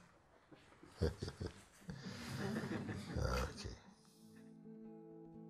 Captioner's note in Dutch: gelach